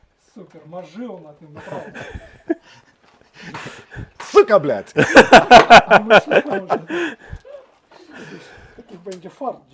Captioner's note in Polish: śmiech